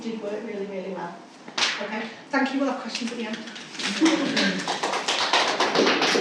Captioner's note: clapping